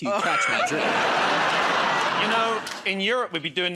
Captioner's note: laughter